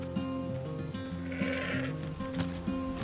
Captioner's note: bleating